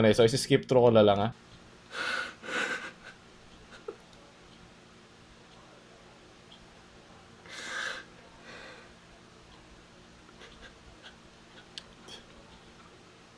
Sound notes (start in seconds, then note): 1.9 sobs